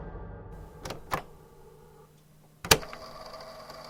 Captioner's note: click